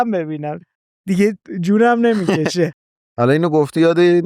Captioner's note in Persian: خنده